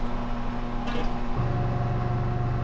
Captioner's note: water splashing